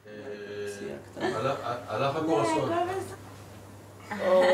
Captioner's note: Hebrew spoken audio